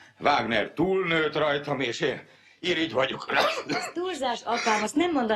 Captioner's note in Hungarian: köhög